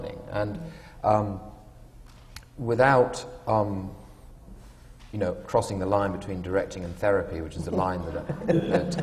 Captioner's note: laughter